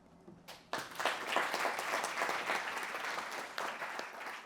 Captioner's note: audience applauding